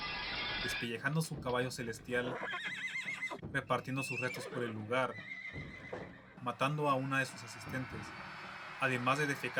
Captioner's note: neighing horse